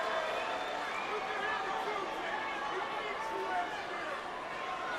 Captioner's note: audience cheers